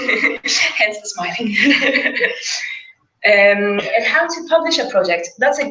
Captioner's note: laugh